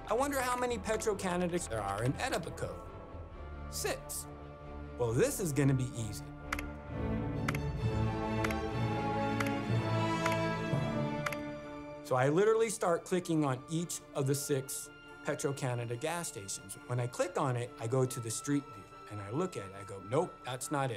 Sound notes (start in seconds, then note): 7.3 suspenseful music; 9.3 mouse clicking